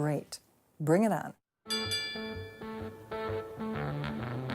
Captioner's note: rings